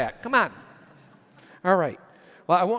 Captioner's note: audience laughs